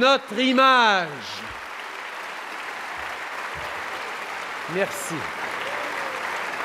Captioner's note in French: Applaudissements – ovation debout